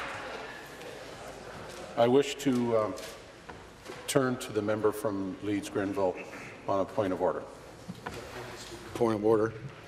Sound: applause

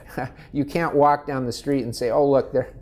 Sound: laughs

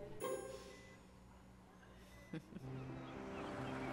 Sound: giggles

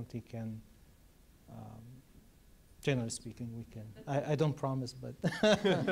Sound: laugh

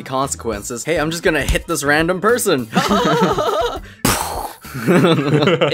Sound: beautifully done gun sound; laughter

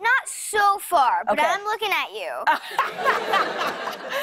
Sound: laughter

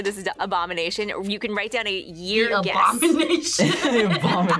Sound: laughs

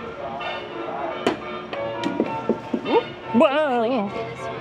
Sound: jazzy music; ball thudding

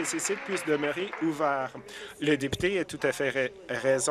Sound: applause

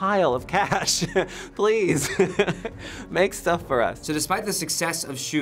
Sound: chuckles

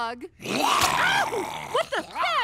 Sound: Nibbler growls

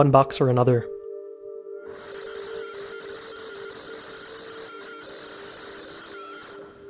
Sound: computer Generated Sound

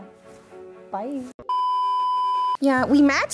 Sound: beeping

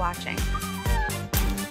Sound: dog whimpers

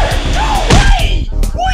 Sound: smack

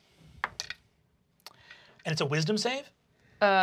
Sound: die clatters

